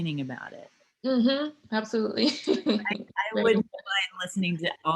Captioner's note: laughs